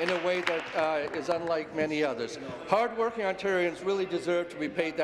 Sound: applause

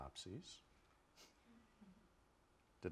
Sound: chuckles

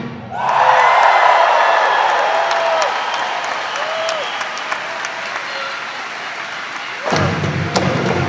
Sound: audience applauding

